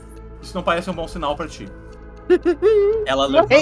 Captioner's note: laughs